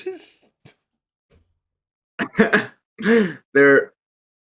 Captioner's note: laughs